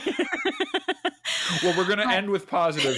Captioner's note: laughs